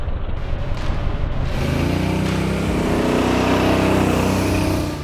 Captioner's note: tires zooming